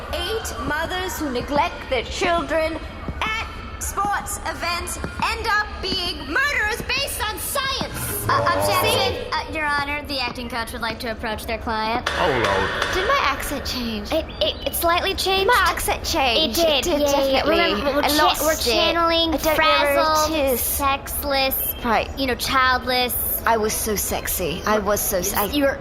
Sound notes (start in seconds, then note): 7.9 pushing back chair; 12.6 bangs gavel; 15.7 in a posh accent, regretfully